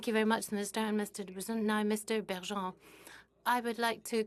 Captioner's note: speaking French